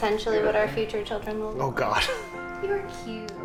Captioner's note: scoffs